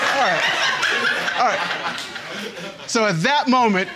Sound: audience laughing

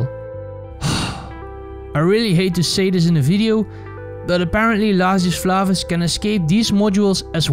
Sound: sigh

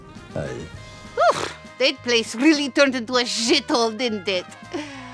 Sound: rolls lips

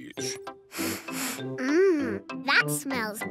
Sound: sniffs

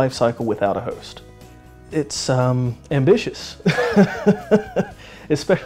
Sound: laughs

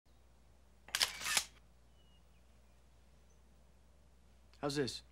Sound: camera shutters

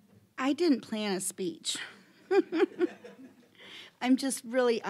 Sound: chuckling

